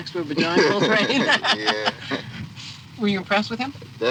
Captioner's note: laughs